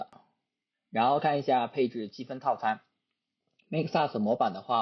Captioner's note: mouse click sound